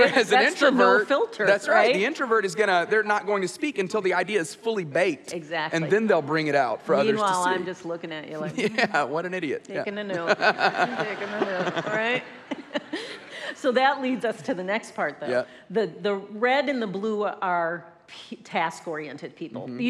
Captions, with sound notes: Whereas an introvert, the introvert, they're not going to speak until the idea is fully baked, and then they'll bring it out for others to see. - Meanwhile, I'm just looking at you like, taking a note. (audience laughs) So that leads us to the next part though. The red and the blue are task-oriented people.